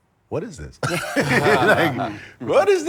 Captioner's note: laughter